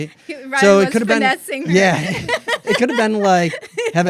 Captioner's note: laughs